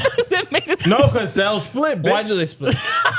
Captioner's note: laughing